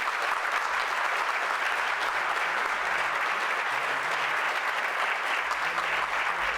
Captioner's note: applause